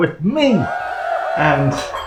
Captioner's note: cheerin